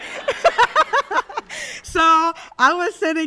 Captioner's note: audience laughs; laughs